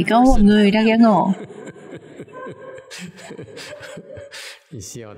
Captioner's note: laughter